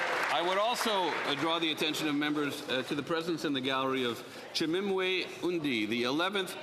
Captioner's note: applause